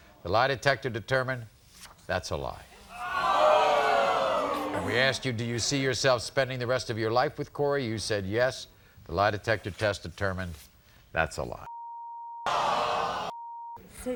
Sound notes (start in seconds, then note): 2.9 audience oohs; 13.3 beep